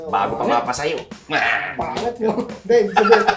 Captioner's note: laughs